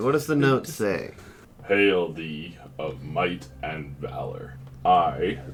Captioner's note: a deep voice, slowly and haltingly